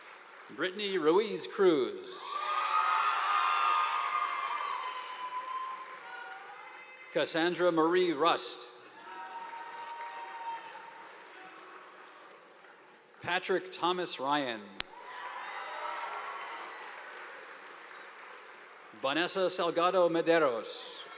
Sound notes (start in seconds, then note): 2.2 students cheering; 2.3 audience applauding; 8.9 audience applauding; 14.9 audience applauding